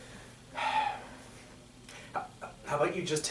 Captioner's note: Sampson sighs